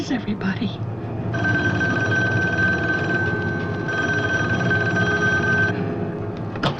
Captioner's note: phone Ringing